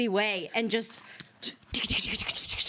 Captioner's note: scratching noises